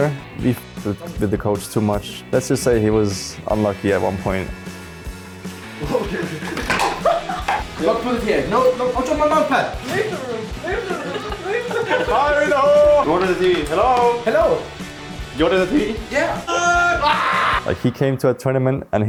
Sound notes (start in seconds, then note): 5.8 laughs; 16.2 scream